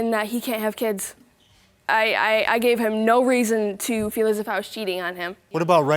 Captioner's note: stammers